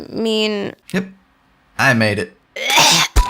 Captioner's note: blargh